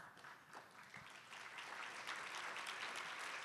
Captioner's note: applause